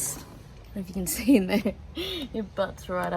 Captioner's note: laughing